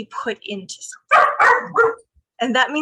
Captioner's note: dog barking